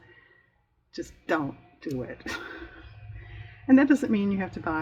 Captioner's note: laughs